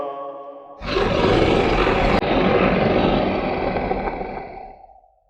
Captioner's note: creature snarling